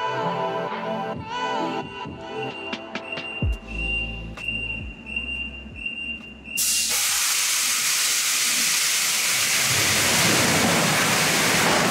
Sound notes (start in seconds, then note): 0.1 machine beeps; 6.9 metal cart slides and impacts